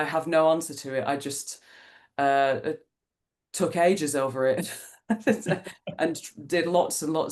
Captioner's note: laughs